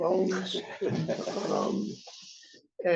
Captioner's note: laughter